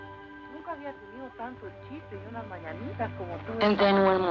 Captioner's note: woman speaking Spanish